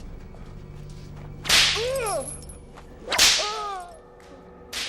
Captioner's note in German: Geschrei; Peitsche geht weiter; Geschrei geht weiter